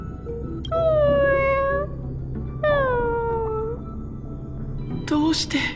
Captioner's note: sob